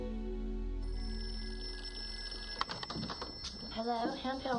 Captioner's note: telephone ringing